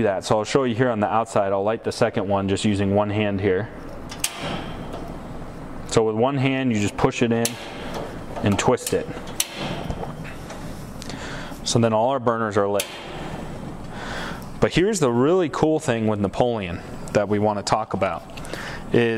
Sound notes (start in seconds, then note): 9.2 clicks